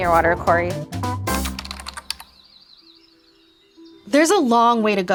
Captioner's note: soothing music; keys clicking